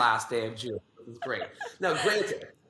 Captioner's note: laughs